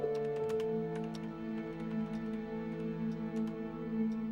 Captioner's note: keyboard clicking